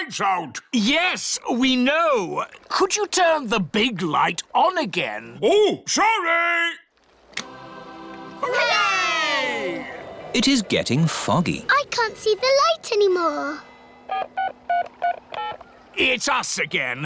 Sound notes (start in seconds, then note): 14.1 dialing